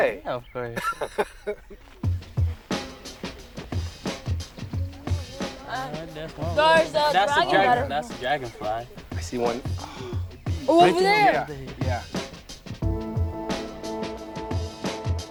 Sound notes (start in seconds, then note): 0.7 Baratunde laughs; 2.2 upbeat music; 5.4 group chattering; 12.5 gentle music